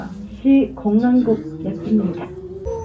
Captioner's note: Korean